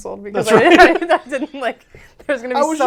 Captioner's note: laughs